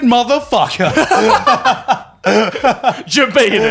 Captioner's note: all laughing